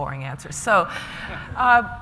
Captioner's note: laughter